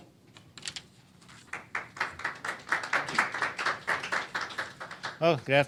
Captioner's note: applause